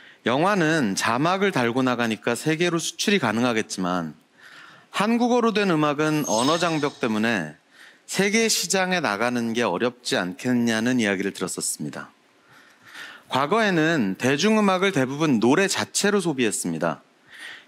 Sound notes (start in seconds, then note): none